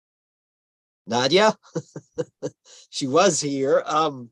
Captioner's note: laughs